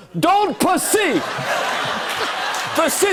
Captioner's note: laughter and applause